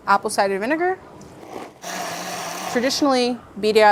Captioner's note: blender whirring